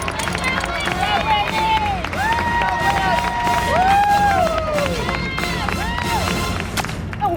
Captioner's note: cheering